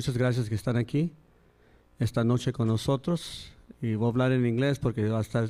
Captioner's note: speaking in Spanish